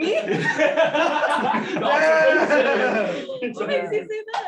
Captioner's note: laughter